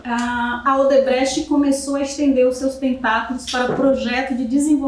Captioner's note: speaking portuguese